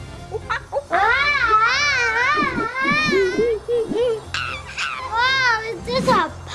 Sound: Adley screaming; monkey screeching

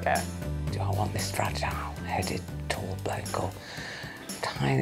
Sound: quietly

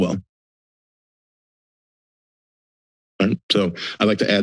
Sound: silence

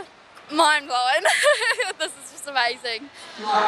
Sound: laughs

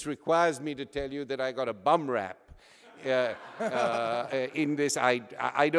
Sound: audience laughter

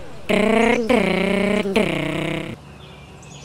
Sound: engine sound

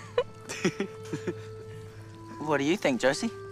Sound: chuckling

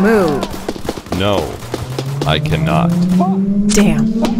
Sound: automatic gunfire; distant screaming; distant siren; automatic gunfire

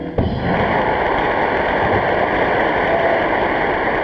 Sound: audience clapping

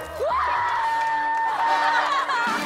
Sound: screaming

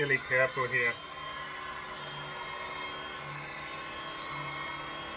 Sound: heat gun whirring

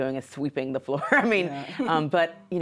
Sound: laughs

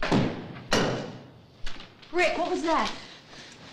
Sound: lock clanging

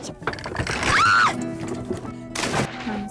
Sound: portia screams; splash

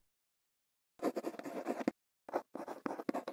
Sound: quill scratching

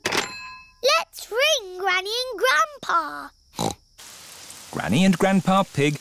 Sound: snorts

